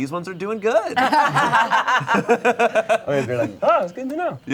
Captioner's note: players laughing